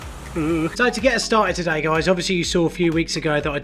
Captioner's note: groans